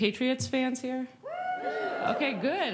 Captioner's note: cheering